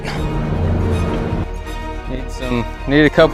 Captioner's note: motor engine